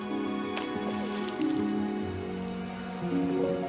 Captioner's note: splash of water